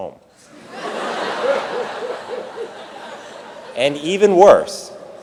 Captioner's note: audience laughing